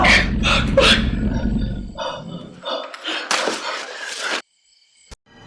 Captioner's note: Bailey gasping desperately